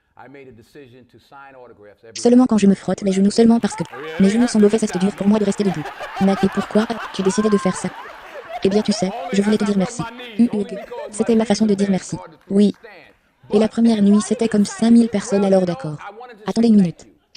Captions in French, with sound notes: J'ai pris la décision de signer des autographes tous les soirs. Oh, ce que j'ai fait. (L'audience applaudit) (en riant) Cela n'arrive pas cette fois-ci, non. Seulement quand je me frotte les genoux, seulement parce que mes genoux sont mauvais, c'est dur pour moi de rester debout. Mais, - Et pourquoi as-tu décidé de faire ça? - Eh bien, tu sais, je voulais te dire merci.